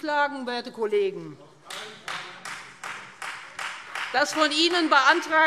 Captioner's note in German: Beifall Freie Demokraten - Zuruf BÜNDNIS 90/DIE GRÜNEN: Auf keinen Fall!